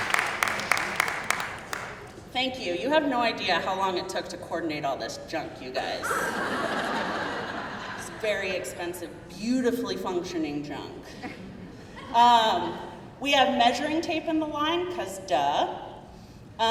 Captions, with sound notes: Thank you. You have no idea how long it took to coordinate all this junk you guys, (crowd laughing) it's very expensive, beautifully functioning junk. We have measuring tape in the line, cause dah,